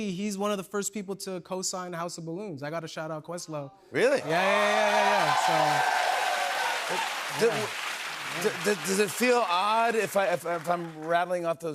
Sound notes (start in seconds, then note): 4.2 cheers and applause